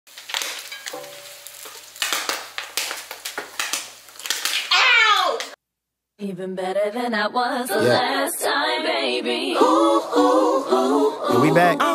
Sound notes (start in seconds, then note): 0.0 popping and sizzling